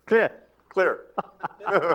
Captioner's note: laughs